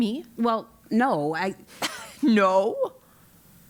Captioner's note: laugh